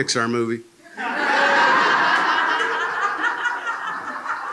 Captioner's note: laughter